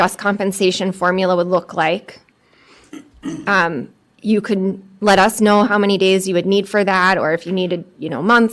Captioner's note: clears throat